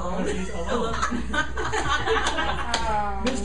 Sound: laughing

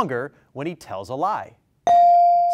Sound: bell rings

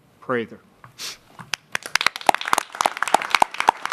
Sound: applause

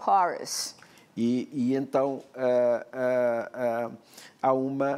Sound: speaking portuguese

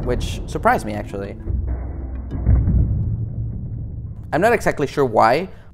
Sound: rig booms

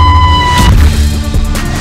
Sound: spooky music; screams; splat

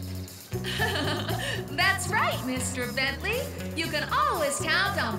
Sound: laughing

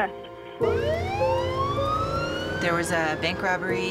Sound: sirens

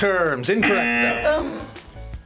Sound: buzzer

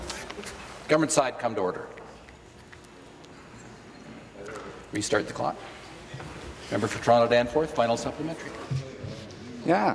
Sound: conversation din

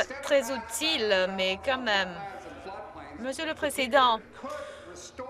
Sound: laughter

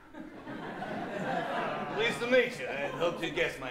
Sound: laughter

